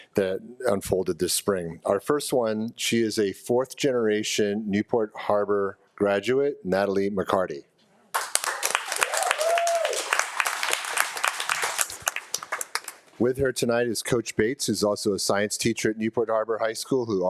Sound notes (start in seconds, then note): 8.2 audience cheering